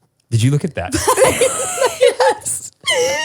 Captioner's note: all laugh